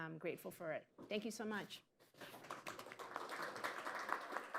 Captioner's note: applause